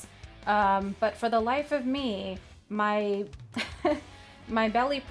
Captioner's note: laughs